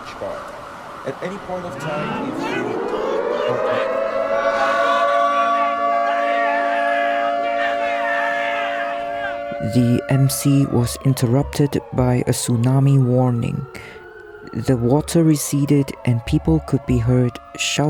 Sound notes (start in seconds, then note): 3.4 crowd in panic; 3.4 tsunami siren